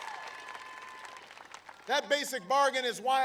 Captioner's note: applause